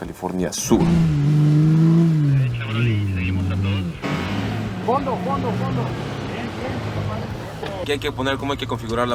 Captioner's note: engine revving; voice on the radio